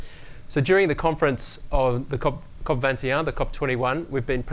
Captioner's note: speaking french